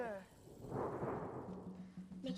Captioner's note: thunderclap